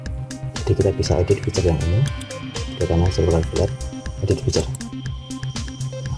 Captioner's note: click